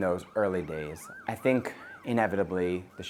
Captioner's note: siren blaring